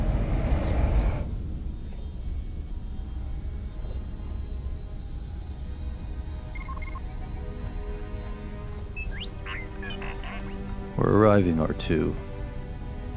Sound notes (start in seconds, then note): 8.8 R2D2 beeps